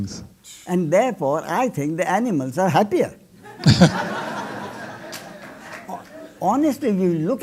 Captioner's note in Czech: smích